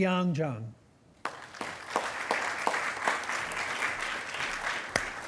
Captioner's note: attendees applauding